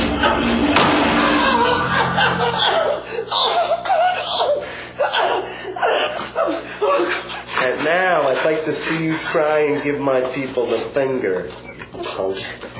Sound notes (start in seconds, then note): 0.7 gunshot; 1.7 screaming; 3.6 panting